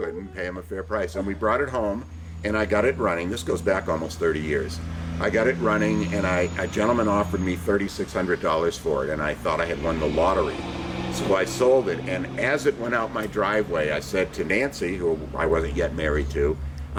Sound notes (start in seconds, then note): none